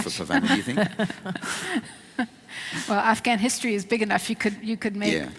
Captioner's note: laughs